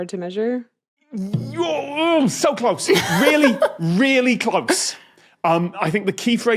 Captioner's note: grumbles